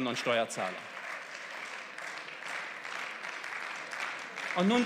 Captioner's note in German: Beifall